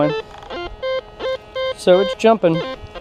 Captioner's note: detector beeps